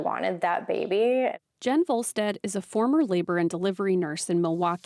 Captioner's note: voice-over